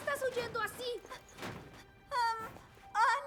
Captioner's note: panting